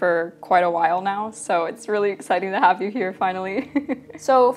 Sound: laughs

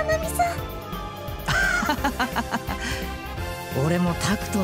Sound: laugh

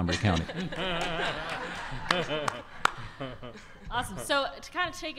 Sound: audience laughter

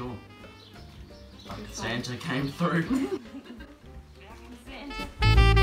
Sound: laughs

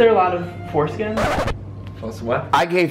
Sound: record scratches

